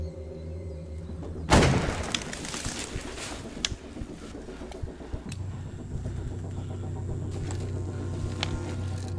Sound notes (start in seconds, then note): 1.5 gun firing; 6.2 intense music